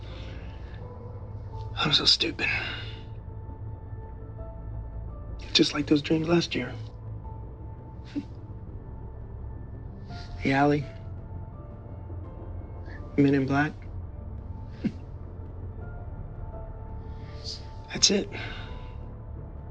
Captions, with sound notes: I'm so stupid. Just like those dreams last year. The alley, men in black. (chuckles) That's it.